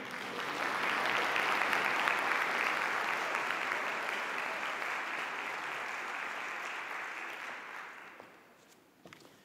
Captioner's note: audience applause